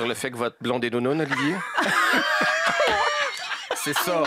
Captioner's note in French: rires